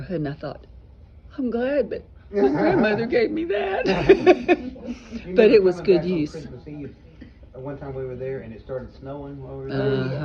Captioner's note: laughter